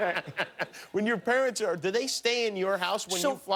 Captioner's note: laughter